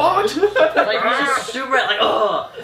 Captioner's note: laughter